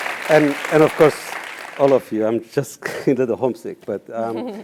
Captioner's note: applause